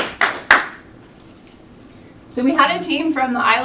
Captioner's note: applause